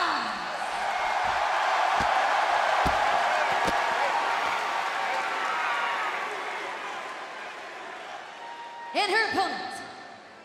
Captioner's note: crowd cheering